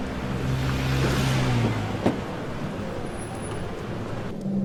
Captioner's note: traffic buzzing